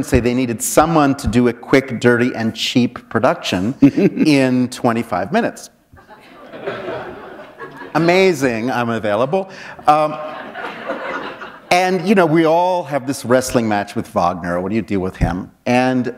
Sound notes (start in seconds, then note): 9.1 laughter